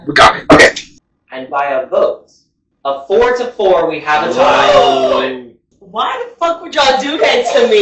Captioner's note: gasps